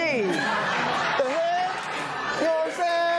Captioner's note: laughter